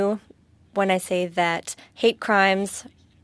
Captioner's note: speaking French